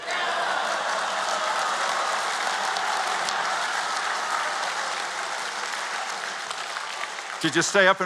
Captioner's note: cheers and Applause